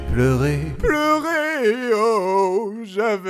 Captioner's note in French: eren sanglots